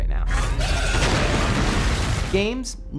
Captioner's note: explosion